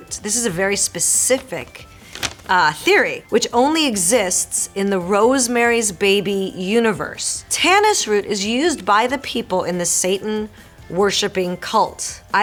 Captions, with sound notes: This is a very specific theory. (Marisol reading fan letter aloud)